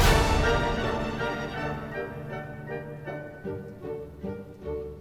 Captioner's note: revolver fired